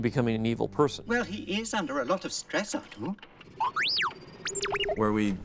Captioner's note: beeping, Whistling